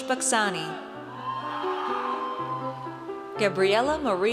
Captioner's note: audience cheers